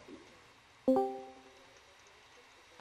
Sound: discord connects

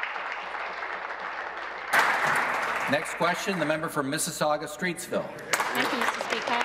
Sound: applause

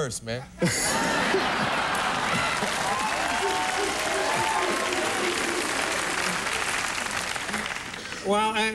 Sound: laughter and applause

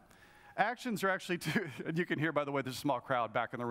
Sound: laughs

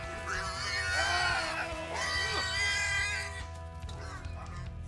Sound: grunting

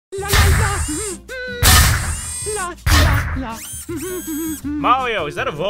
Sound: humming

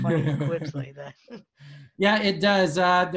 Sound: laughs

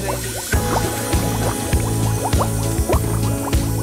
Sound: running water

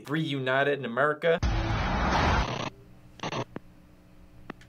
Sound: static noises; thrilling music

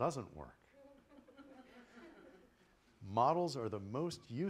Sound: laughter

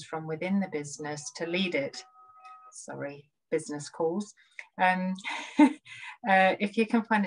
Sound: chuckles

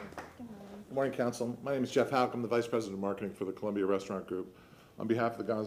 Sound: applause

